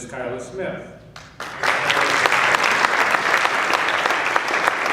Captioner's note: applause